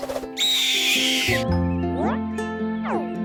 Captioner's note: Melba squawking; mellow music